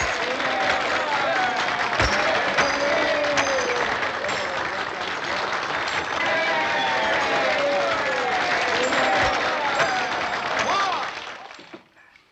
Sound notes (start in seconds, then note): 7.4 cheers and applause